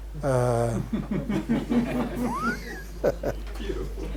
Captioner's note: laughter